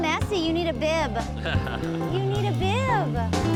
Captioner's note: man laughs; jazz music ends